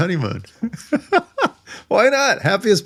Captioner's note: laughing